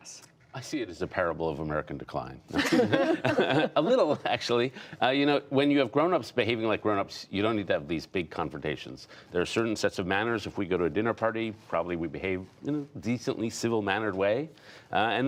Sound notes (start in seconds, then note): 2.5 laughter